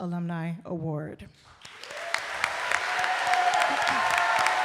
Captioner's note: audience cheering and applauding